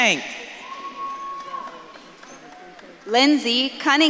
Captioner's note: audience claps and cheers